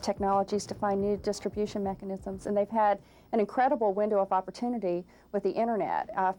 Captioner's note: none